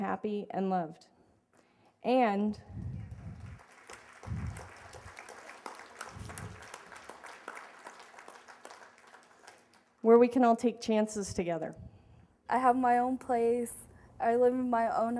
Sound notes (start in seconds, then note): 2.8 applause